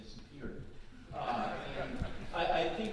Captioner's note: audience laughing